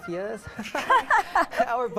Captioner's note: fake laugh